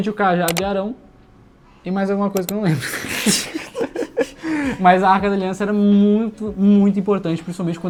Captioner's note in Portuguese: risadas